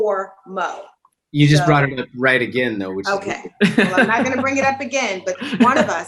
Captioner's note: laughs